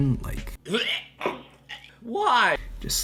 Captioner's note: vomits